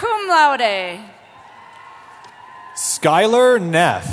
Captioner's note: cheering